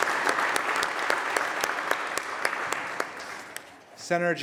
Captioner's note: applause